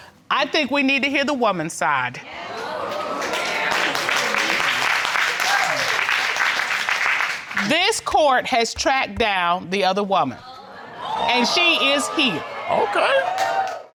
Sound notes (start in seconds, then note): 2.6 audience applauding